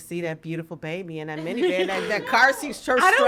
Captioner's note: podcasters chuckling; chuckles